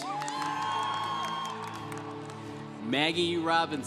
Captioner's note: congregation applauding